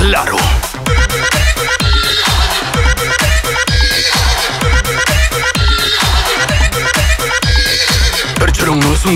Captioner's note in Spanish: Sonido de caballo